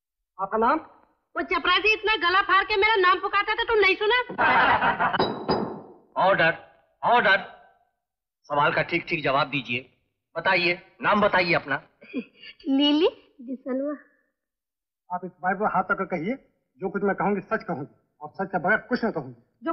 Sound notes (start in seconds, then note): 4.4 laughs; 5.1 gavel Banging